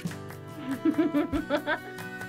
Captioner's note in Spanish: risas